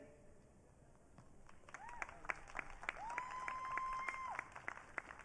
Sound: audience cheering

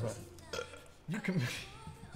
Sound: belching

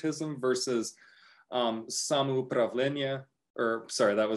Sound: speaking russian

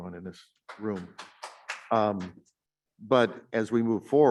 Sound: audience clapping

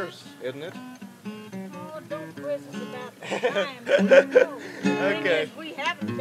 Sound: laughs

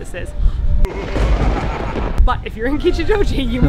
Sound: evil laugh and thunder

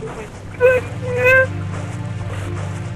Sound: cries

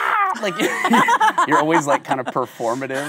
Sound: both laughing

